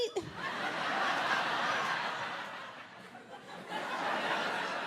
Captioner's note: audience laughing